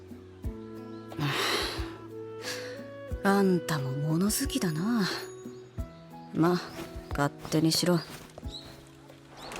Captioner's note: sigh